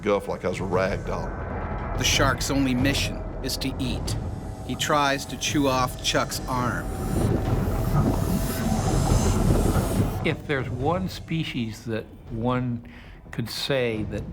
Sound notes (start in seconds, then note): 2.0 voiceover